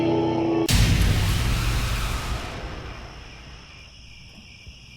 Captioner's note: jump scare; crickets